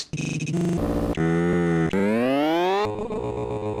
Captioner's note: buzzing varies in pitch